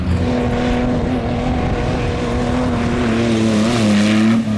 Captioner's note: engine revving